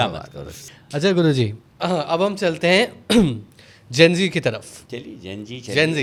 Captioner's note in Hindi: गला साफ़ करने की आवाज़